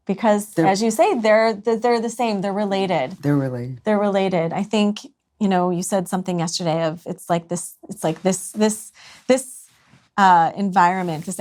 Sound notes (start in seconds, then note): none